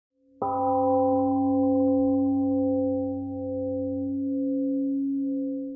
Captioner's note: temple gong rings and fades